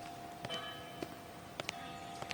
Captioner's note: birds chirping